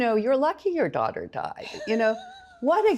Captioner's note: laughs